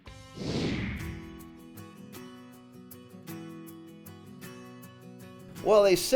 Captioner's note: screen whooshing; calm music